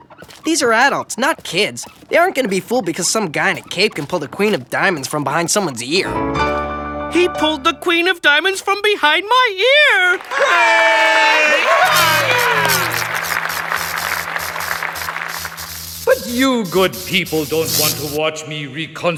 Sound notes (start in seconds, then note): 11.7 electricity humming